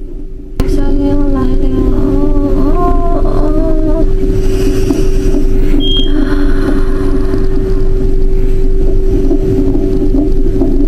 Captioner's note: inhales deeply